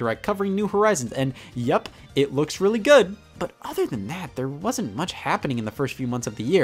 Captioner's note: none